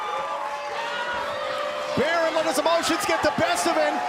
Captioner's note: crowd cheering